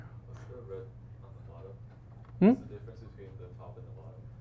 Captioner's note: student faintly speaking